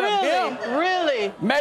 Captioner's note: audience laughing